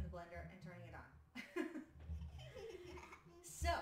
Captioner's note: laughs